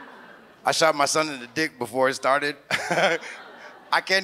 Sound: audience laughs; chuckles

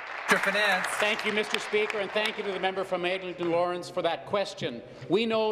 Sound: applause

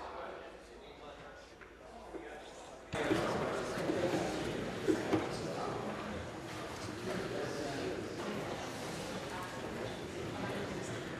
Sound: conversation din

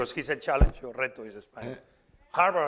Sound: spanish

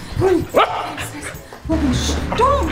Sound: dog barking

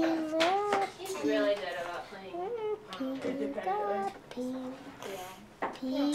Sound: background chatter

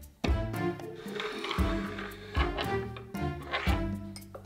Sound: spoon sliding

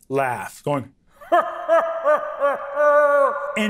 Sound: laughing hysterically

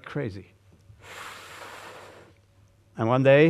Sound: gusty inhalation

